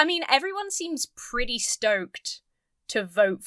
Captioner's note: none